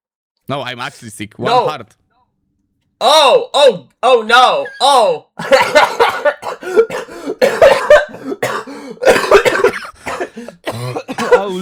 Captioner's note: laughter